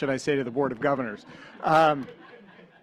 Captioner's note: laughter